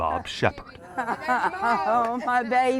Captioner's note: laughing